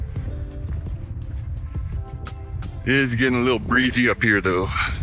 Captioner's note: wind blowing